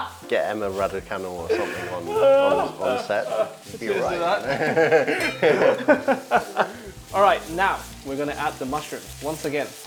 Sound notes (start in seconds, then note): 4.3 laughter